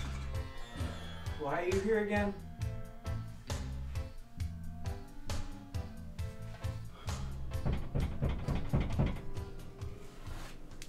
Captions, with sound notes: Why are you here again? [Knocking on downstairs door]